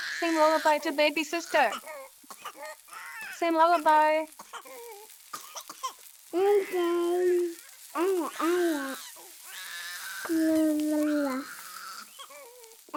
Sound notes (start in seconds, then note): 6.3 toddler babbling